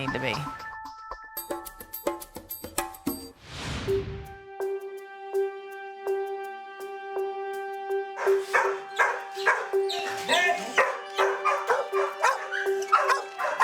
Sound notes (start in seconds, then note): 0.0 upbeat music; 3.4 frame whooshes; 7.0 sprayer squirting; 8.1 dogs barking